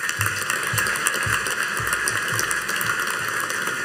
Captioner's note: audience applauding